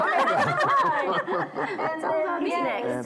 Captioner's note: laughing